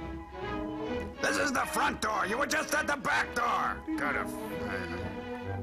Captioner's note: grumbling